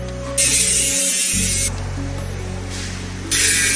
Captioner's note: saw whirring